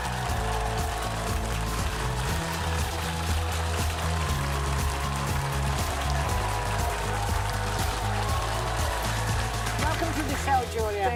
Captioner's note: applause